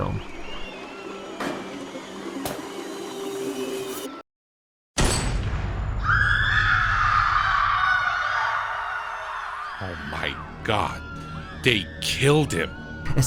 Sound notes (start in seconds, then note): 8.8 scream